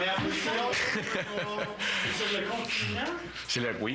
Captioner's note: rires